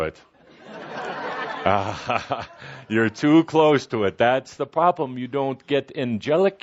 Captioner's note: laughter